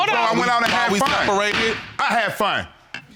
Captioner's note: gavel bangs